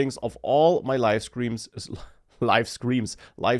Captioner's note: laughs